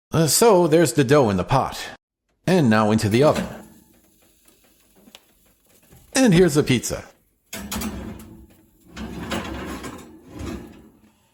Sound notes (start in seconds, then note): 7.4 metallic Sounds; 9.0 metal Sliding